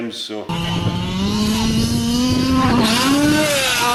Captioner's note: car whirring